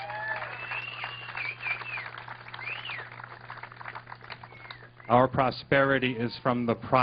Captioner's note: applause